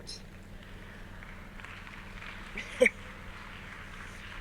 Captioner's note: audience applauds